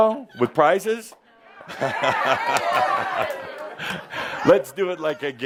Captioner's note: audience says “Yeah!”